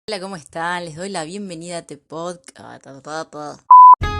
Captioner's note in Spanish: se le traba la lengua